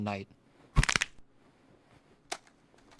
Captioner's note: knuckles crack